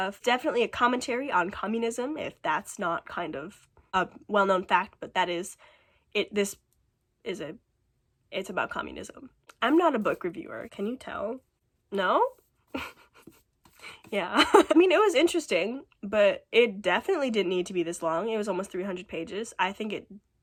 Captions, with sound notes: It's definitely a commentary on communism, if that's not a well known fact. But that is... it-this is a....it's about communism. I'm not a book reviewer, can you tell? No? [chuckling] Yeah. [laughs] I mean it was interesting. But it definitely didn't need to be this long. It was almost 300 pages. I think it-it